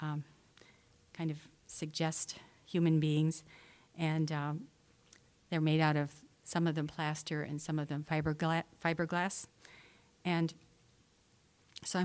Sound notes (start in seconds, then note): none